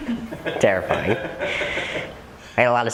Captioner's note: laughter